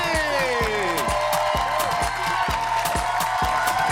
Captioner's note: cheers and applause